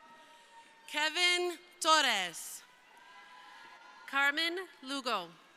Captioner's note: crowd cheering; crowd cheering